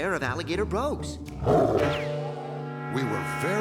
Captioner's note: growl